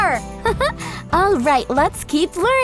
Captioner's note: laughs